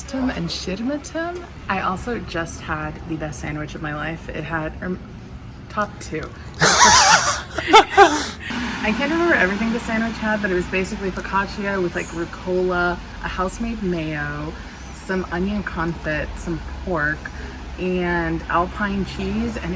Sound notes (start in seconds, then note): 6.6 laughter